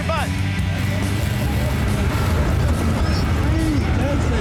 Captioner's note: cars speeding